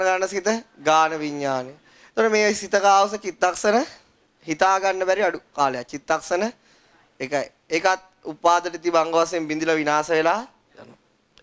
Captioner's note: Static